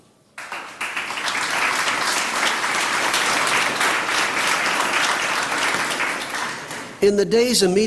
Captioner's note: applause